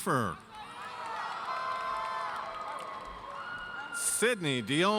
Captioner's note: audience cheers